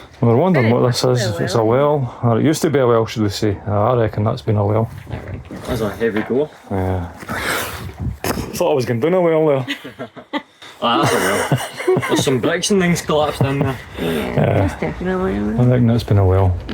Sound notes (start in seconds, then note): 7.0 gasp; 10.8 laughter